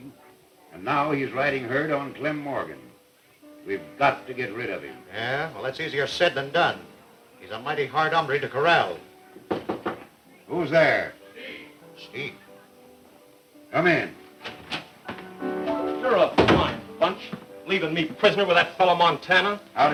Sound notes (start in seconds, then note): 9.4 knocking at the door; 16.3 door opens